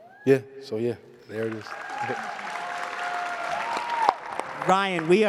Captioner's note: cheers and applause